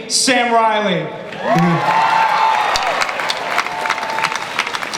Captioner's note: audience applause